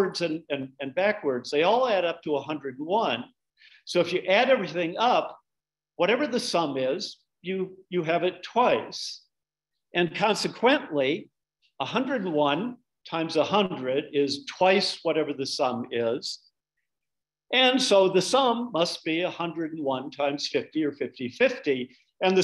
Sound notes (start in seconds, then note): none